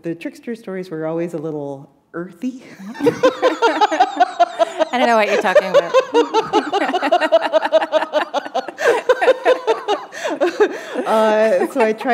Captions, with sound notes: The trickster stories were always a little earthy. [laughter] I don't know what you're talking about. [chuckle] [laughter]